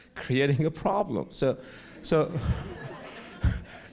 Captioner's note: audience laughs; laughs